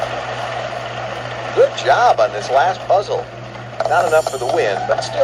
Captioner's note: pat